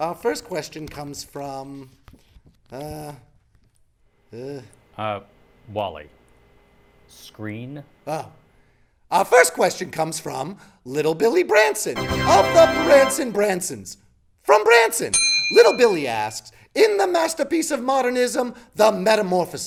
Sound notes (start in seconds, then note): 11.9 fanfare; 15.1 bell dings